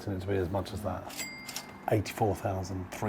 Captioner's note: register ringing